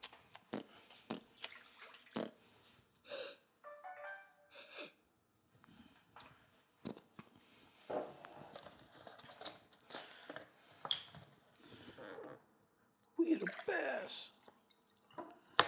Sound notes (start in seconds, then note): 2.8 sniffs glass; 3.6 phone blings